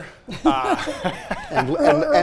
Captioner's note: laughing